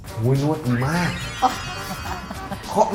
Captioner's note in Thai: หัวเราะ